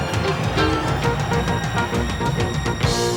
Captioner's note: engines revving